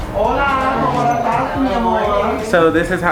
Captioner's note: everyone chattering